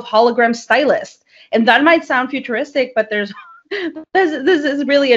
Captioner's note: chuckles